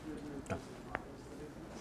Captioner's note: audience member speaking softly